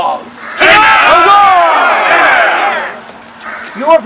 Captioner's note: crowd